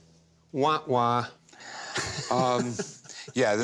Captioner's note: laughs